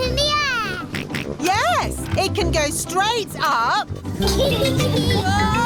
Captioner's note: snorts; kids giggling